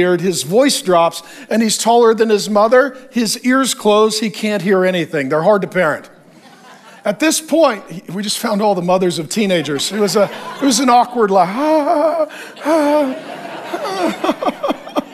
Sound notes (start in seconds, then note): 9.4 congregation laughs; 11.3 preacher laughs